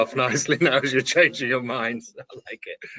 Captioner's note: laughing